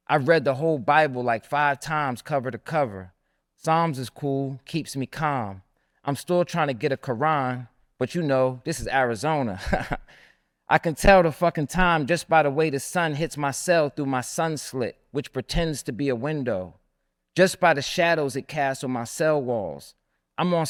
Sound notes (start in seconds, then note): 10.2 laughs